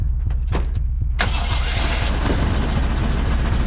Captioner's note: engine starts